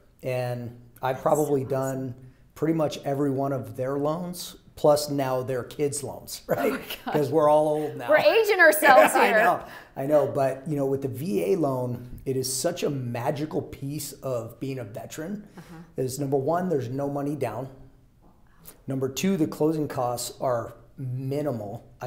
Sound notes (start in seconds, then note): 6.5 chuckles; 8.8 laughing